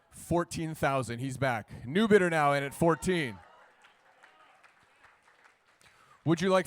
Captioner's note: cheers and applause